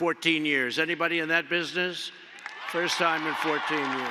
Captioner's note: applause